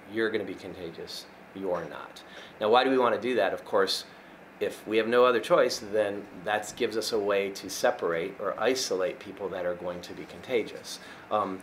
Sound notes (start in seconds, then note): none